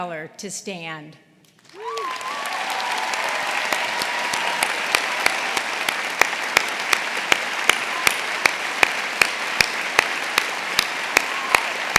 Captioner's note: applause